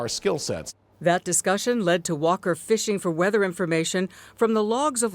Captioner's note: voice-over